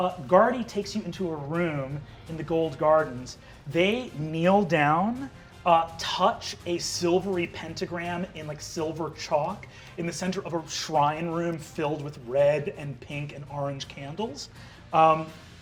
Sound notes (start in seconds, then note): none